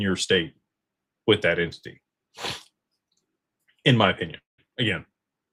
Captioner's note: snorts